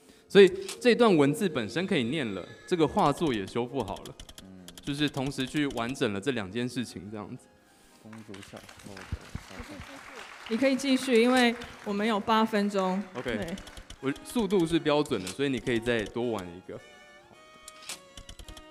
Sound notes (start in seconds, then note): 8.0 applause